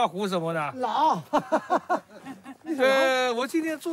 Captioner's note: speaks in Chinese language; man speaks in Chinese language; laughter; speaks in Chinese language